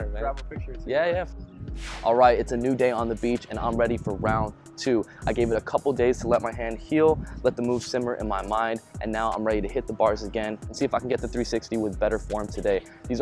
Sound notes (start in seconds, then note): 1.6 whoosh